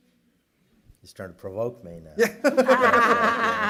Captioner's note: laughter